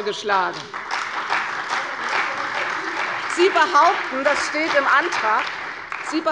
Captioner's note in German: Beifall bei der CDU